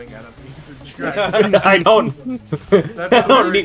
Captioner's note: everyone laughing